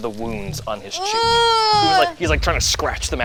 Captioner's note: squeals